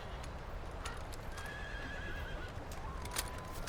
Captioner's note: none